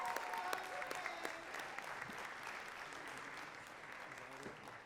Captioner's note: audience cheering and clapping